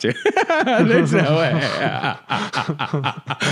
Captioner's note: they both laugh